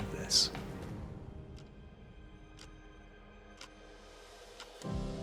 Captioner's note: clock ticks